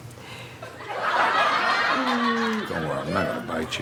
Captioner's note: audience laughs